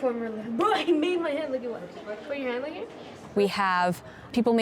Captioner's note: chatter